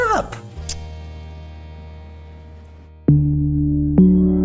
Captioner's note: lips kissing; quiet music